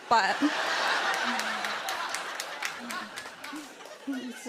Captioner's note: laughter